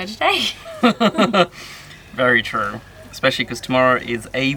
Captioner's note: laughing